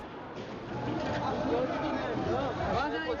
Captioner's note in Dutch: spreekt in een vreemde taal